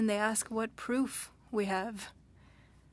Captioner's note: speaking French